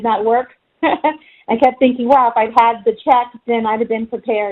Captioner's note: chuckles